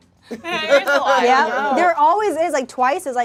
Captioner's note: group laughs; overlapping chattering